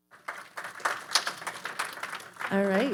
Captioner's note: audience applauding